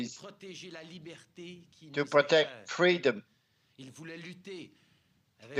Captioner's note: speaking french